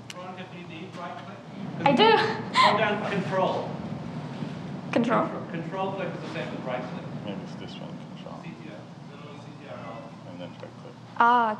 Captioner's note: audience conversation